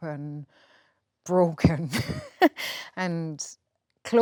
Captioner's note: laughs